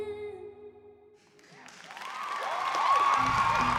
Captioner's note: cheering